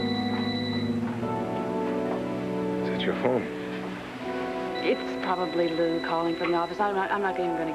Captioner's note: telephone rings